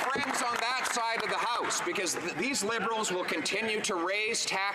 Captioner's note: some Applause